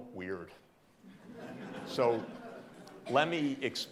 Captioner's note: audience laughing